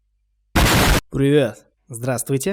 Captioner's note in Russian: бум